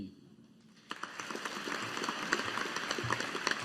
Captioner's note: audience applauding